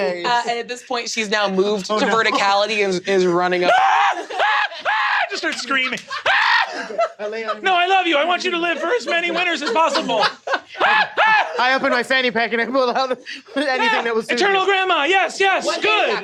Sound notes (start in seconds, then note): 3.8 starts screaming; 10.8 continues screaming